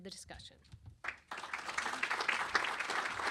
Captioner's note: applause